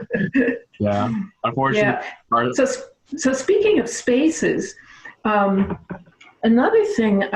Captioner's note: laughs